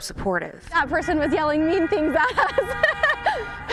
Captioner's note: laughs